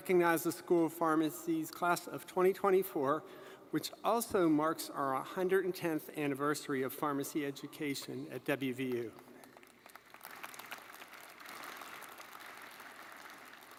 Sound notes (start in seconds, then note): 9.4 audience applauding